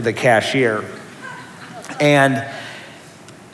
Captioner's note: laughter